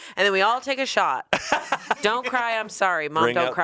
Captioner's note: laughs